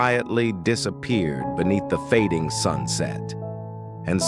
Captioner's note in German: Off-Stimme